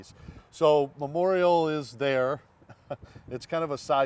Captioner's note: chuckling